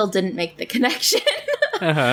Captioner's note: laughs